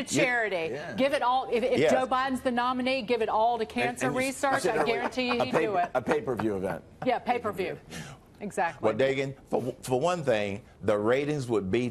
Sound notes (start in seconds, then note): 4.6 laughter